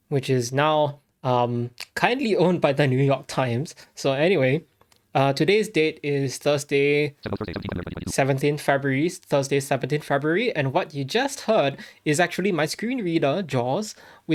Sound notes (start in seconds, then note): 7.4 JAWS speaks rapidly